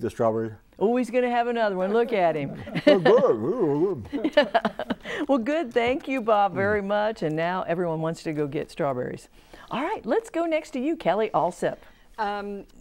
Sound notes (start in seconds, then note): 1.9 laughing